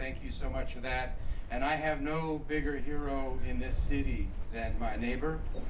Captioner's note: none